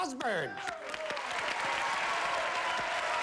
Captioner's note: applause